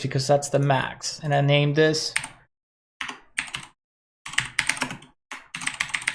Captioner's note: keyboard typing